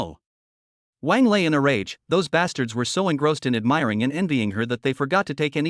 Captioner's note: in a rage